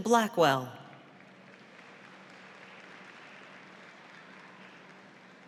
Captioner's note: audience applauds